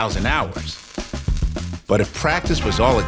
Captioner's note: sparks crackling